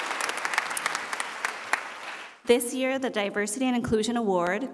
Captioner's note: applause